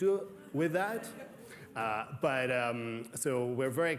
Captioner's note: laughter